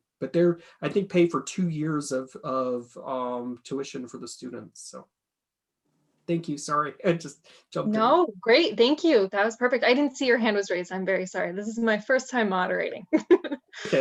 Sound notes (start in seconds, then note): 13.2 laughs